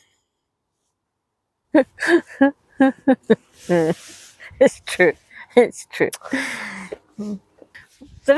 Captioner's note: laughter